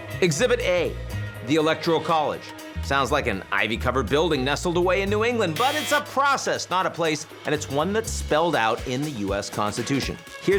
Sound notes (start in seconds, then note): 5.5 alarm buzzing